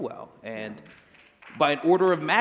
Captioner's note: applause